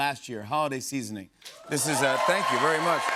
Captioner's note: cheers and applause